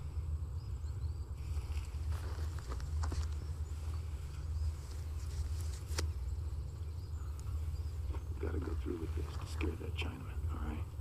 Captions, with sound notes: We gotta go through with this to scare that Chinaman, all right? Now, you and me, as gentlemen, I promise you-- [ Speaks Mandarin ] [ Match Strikes ]